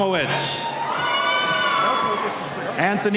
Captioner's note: cheering